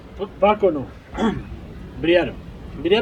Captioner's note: clears his throat